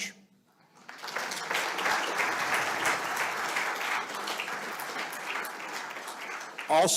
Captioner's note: audience applauding